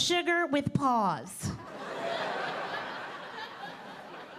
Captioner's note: audience laughing